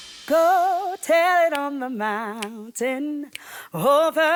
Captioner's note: snapping fingers